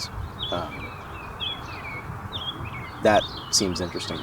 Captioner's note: birds chirping cheerfully